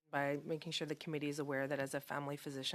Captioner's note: speaking French